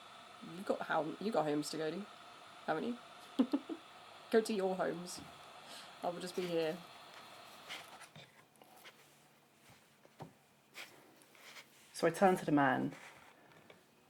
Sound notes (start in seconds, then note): 3.3 laughs; 7.5 brushing